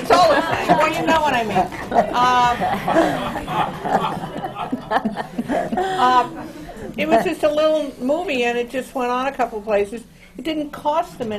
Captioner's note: laughter